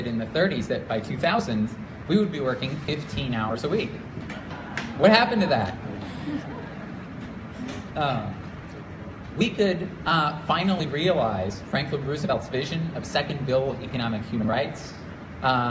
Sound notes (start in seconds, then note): 6.0 laughter